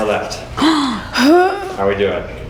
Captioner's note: gasping